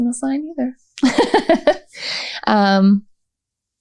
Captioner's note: laughter